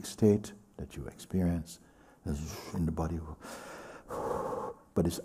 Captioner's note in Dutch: blaast uit